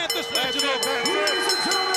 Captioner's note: bell ringing